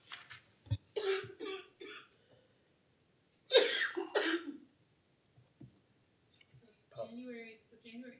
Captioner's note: coughing